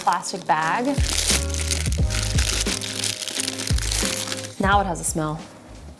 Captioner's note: wrapper crinkling